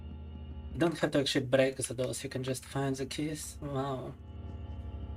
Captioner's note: speaking in Russian